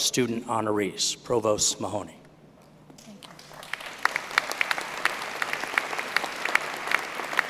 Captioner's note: applause